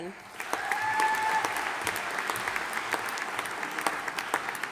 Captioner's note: audience applauding